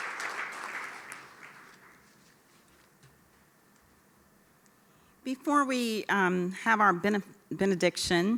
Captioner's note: applause